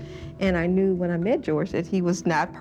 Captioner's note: gasps